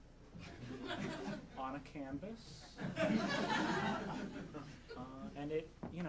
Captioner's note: audience laughing